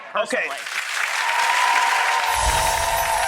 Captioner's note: applause